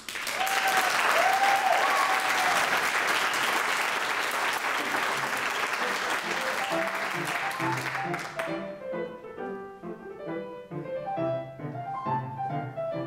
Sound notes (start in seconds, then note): 2.8 audience applauds; 9.7 lively music